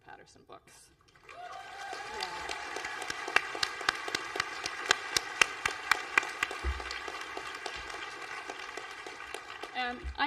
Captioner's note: applause